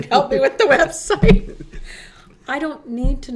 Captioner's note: laughing